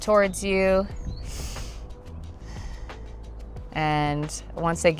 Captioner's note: breathes in and out